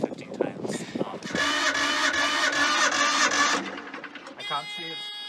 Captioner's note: sound of engine not turning over